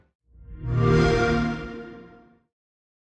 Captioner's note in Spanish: Sonido Xbox